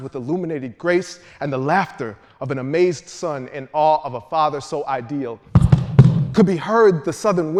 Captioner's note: feet stomping